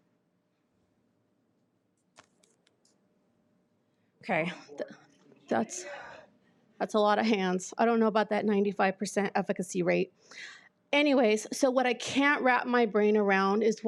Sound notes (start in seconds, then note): none